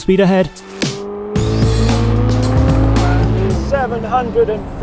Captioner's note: engine roaring; dynamic upbeat music